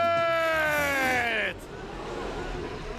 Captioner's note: audience gasps